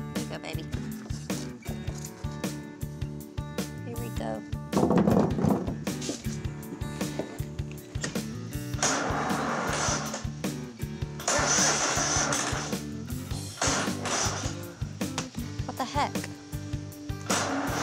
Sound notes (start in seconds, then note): 8.3 starting mower; 11.3 grinding; 17.2 engine grinding